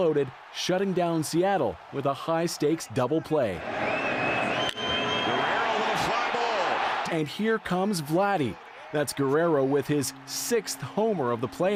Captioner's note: cheering